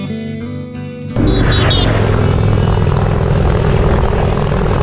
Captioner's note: comforting music; motorcycle honks